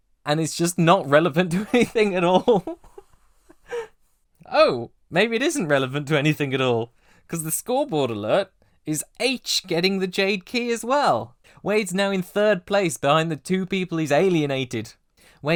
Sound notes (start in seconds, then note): 0.2 laughing; 1.5 laughter